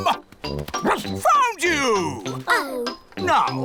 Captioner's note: barks